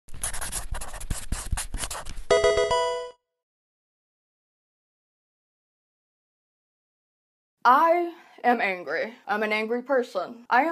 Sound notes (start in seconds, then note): 0.1 pencil writing; 2.3 Pokemon game sound